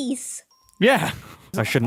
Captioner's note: laughs